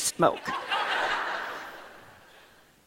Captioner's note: laughter